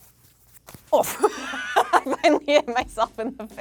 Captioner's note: laughs